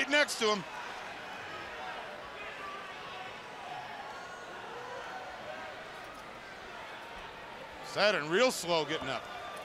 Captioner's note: crowd chatter